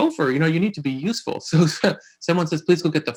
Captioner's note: laughing